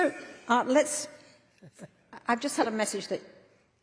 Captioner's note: laughter